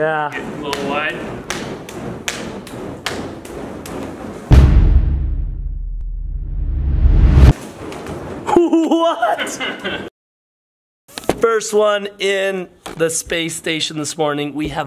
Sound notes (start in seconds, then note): 2.5 torches slapping against hands; 4.5 cannon fires; 9.2 laughs